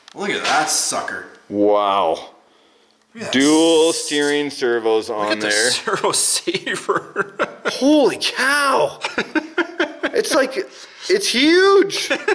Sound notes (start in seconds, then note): 8.8 laughs